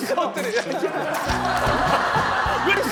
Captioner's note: spitting